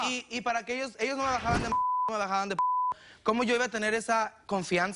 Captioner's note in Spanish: Bip